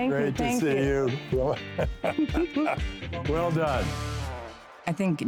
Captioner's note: laughter